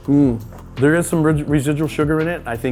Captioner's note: vocalizes